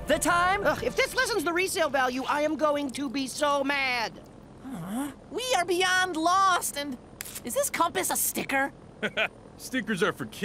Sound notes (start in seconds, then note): 4.6 sighs; 9.0 laughs